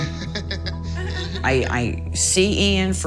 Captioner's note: laughs